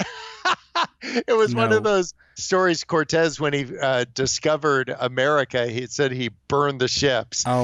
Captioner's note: laughs